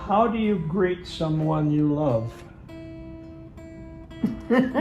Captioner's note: laughter